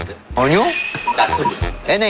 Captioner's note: powerfully confident